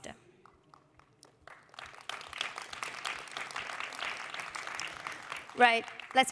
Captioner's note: applause